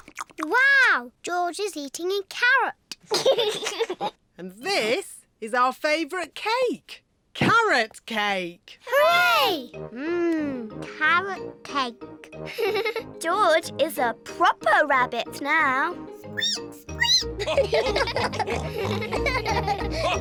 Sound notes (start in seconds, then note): 3.1 giggles; 16.4 squeaks; 17.3 all giggle